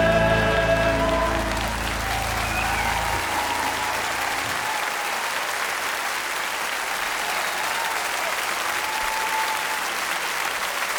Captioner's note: cheering and applauding